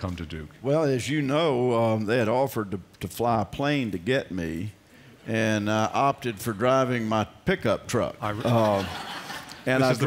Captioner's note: laughs